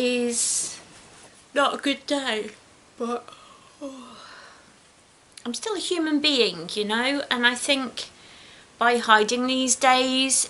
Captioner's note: yawns